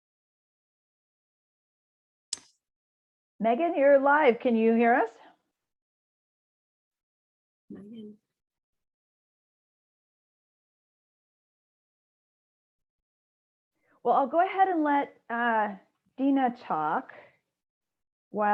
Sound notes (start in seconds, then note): 7.7 no audible dialogue